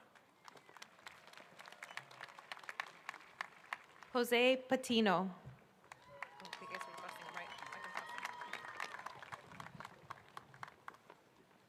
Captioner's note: applause